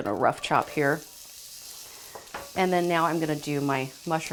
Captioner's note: shallots sizzle